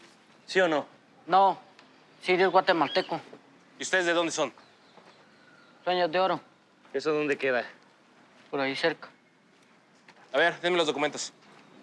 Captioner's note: speaking in Spanish